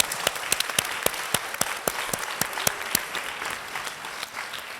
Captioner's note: audience applauding